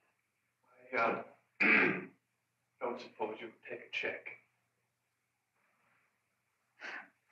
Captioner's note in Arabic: يصفي حلقه